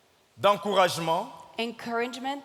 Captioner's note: speaking in French